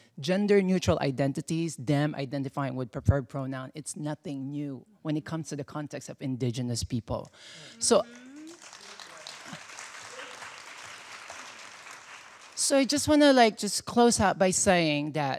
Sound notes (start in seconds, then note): 7.8 audience applauding